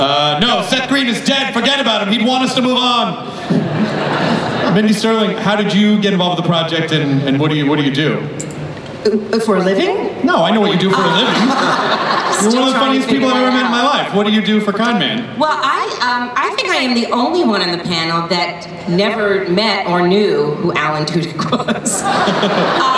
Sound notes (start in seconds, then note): 3.3 everyone laughs; 10.9 laughter; 21.4 laughs